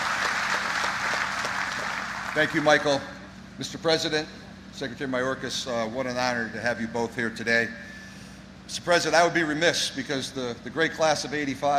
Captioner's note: applause